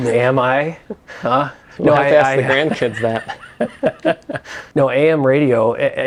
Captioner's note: haha